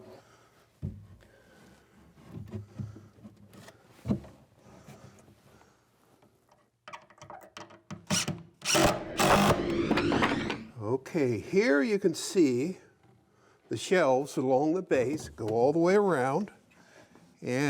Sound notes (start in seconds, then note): 8.6 impact driver whirring; 9.3 wood swooshing